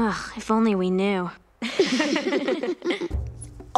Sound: laughing

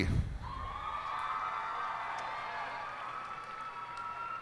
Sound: cheers and applause

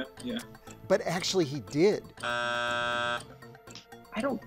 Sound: buzzer buzzing

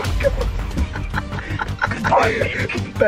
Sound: laughing

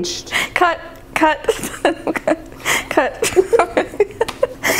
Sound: laughing

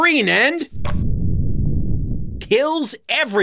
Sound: explosion

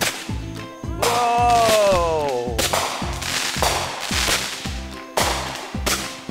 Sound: firework pops, crackles; firework repeatedly pops, crackles

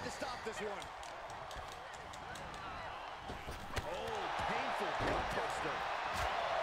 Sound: applause; applause

